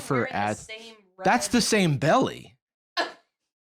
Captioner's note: laughs